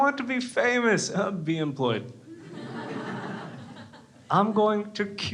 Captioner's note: crowd laughs